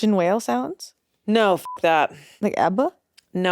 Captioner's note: beep